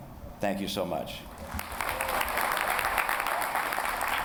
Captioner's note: applause